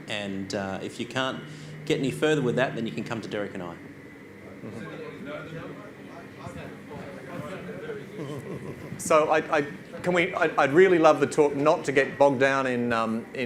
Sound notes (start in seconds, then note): 4.4 audience chatters